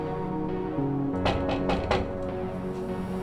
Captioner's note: knock on door